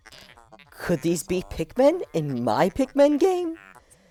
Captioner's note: voice crack